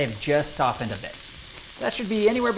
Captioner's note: pan sizzling